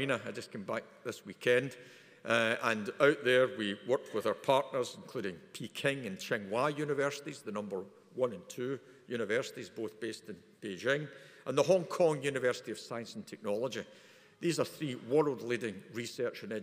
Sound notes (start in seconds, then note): none